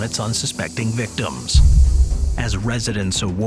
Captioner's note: gas spraying sound